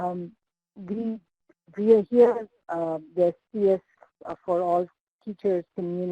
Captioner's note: choppy mic